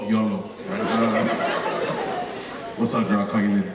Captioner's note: audience laughing